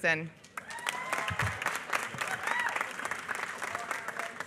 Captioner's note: applause